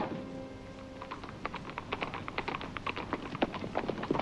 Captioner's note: hooves clopping